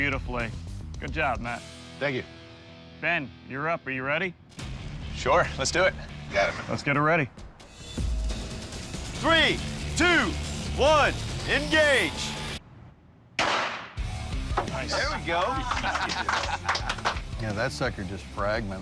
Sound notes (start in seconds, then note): 13.3 gunshot; 15.0 applause